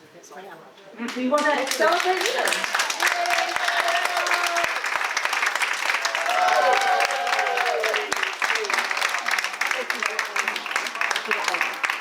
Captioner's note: audience applause